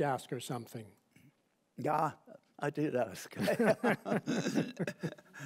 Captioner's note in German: Gelächter